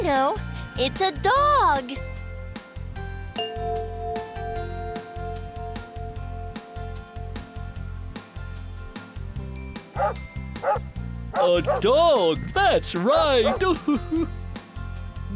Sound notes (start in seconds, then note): 3.4 bell chimes; 9.9 sound of a barking dog